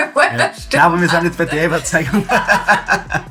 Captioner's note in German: lachend